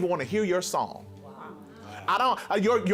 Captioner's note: group murmuring